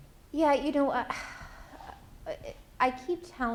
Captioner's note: sighs